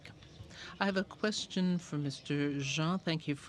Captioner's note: speaking french